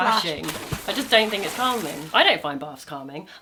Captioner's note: water splashing